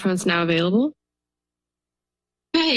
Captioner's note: silence